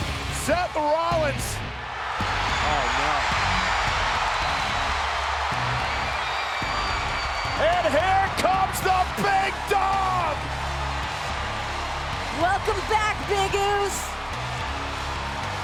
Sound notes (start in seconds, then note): 3.2 applause